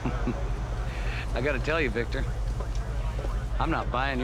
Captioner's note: chuckles